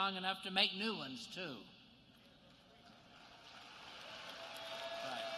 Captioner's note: applause